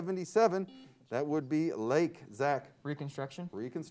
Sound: buzzer sounds

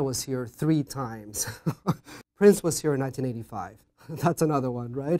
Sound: laugh

